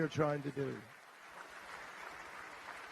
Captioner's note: applause